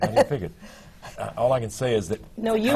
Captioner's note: laughs